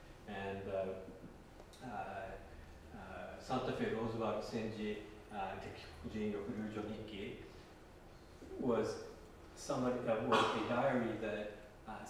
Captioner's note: japanese